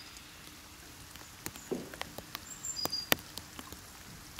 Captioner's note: rain pattering, birds chirping